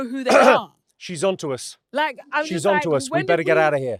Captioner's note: coughs